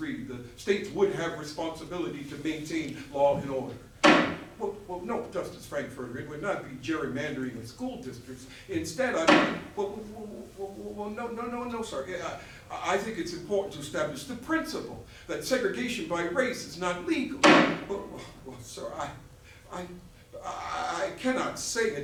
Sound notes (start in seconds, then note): 4.0 gavel; 9.1 gavel; 17.4 gavel